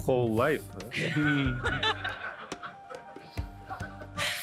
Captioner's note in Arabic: يضحك المراسلون